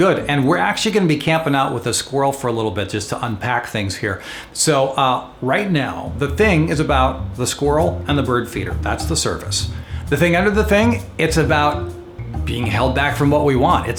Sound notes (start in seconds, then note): none